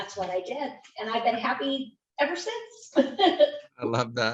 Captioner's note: chuckles happily